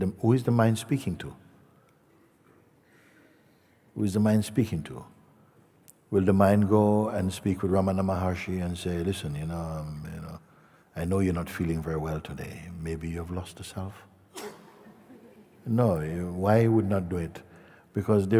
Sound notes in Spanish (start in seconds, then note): 14.4 risas